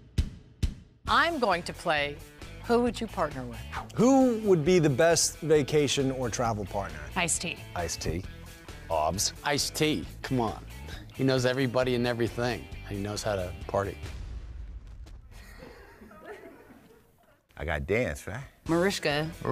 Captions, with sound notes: -I'm going to play "Who Would You Partner With?" -Who would be the best vacation or travel partner? -Ice-T. -Ice-T. Obs. -Ice-T. Come on. He knows everybody and everything, and he knows how to party. [ Laughter ] -I got to dance, right? -Mariska. -Mariska.